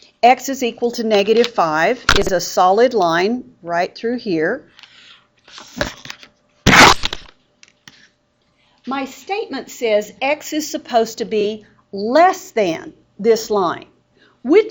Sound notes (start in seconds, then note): 6.6 loud scraping sound